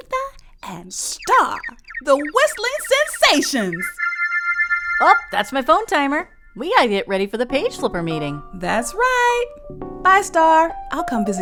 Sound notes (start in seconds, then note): 1.1 timer sound